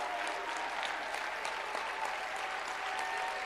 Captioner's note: applause